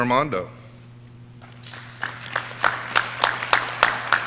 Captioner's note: audience clapping